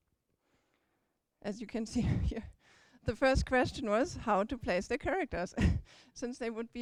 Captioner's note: chuckles